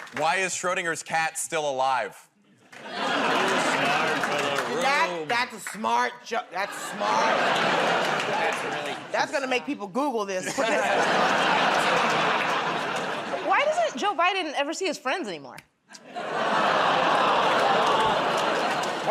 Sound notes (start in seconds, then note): 2.7 laughter; 10.4 laughter; 15.8 laughter, groaning